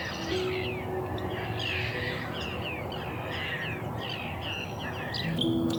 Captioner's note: birds chirping